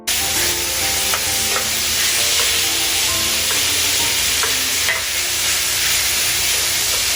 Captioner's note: sizzle sounds